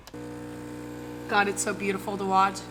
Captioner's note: machine buzzing